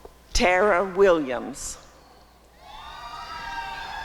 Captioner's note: applause and cheering